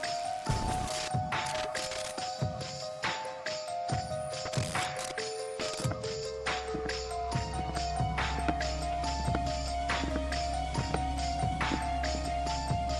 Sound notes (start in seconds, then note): 0.2 camera whirling; 6.0 footsteps